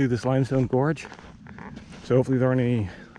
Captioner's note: footsteps thumping